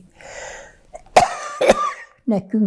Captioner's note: coughing